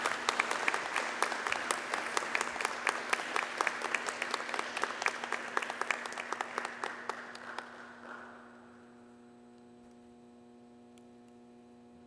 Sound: applause

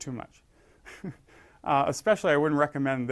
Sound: laugh

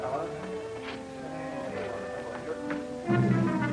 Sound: hospital staff chatters; dramatic music

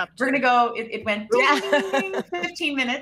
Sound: group chattering

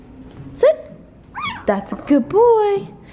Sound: dog barking

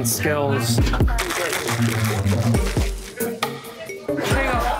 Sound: ice shaking

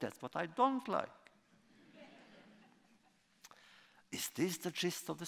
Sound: laughter

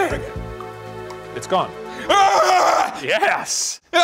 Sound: screaming

